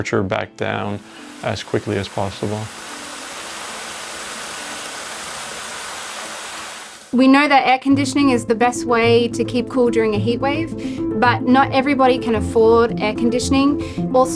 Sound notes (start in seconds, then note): 3.2 water running